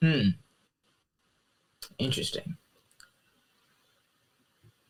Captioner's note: silence